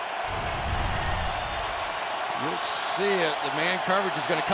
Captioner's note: crowd cheering